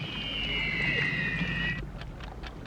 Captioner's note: ticking